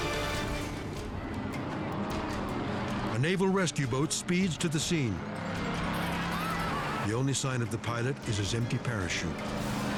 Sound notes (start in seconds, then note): 1.3 engine roars